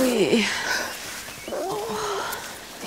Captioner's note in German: Fuchs winselt